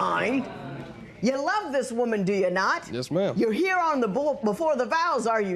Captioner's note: spectators murmur